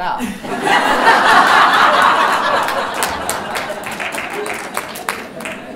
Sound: laughter

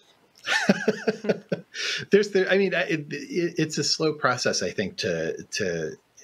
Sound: laughs

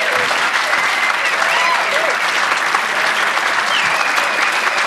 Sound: audience applauding

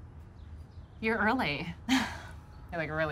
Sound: laugh

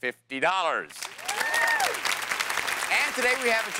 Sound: cheers and applause

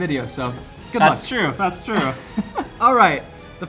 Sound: laughs

